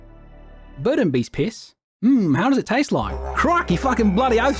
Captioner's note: bad Australian accent